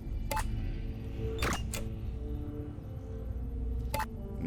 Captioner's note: buttons beeping